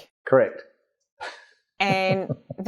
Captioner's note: laughing